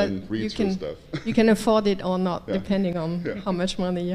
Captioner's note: laugh